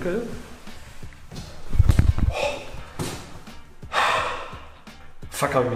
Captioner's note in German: durchschnaufen